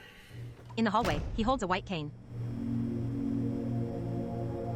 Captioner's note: door slams and echoes